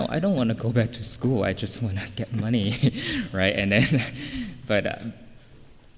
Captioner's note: laughing